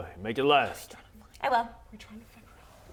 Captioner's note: whisper whisper